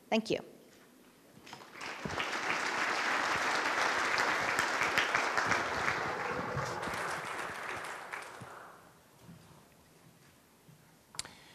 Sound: applause

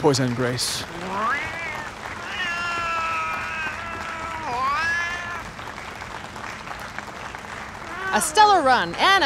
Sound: cat meowing angrily

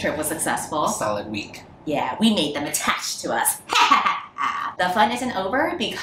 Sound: evil laugh

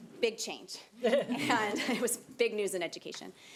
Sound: audience laughing

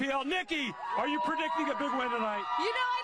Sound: cheering and applause

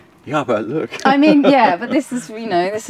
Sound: laughs

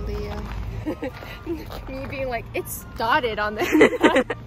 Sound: laughing

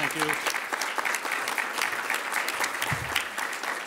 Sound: clapping

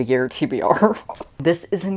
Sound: laughing

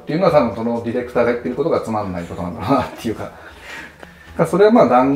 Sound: laughing

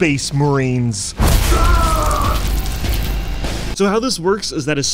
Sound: soldiers grunting

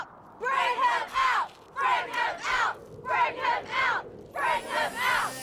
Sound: crowd

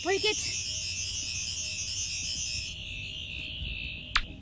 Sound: sonic buzzing

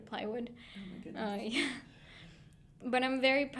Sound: laughing

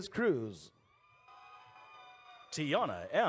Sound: audience cheers

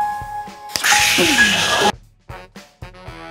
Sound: magical sounds

